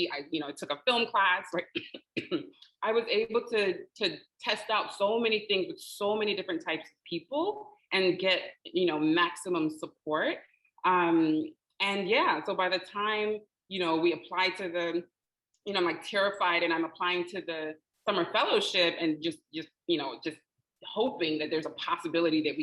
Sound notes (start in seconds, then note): 1.7 coughing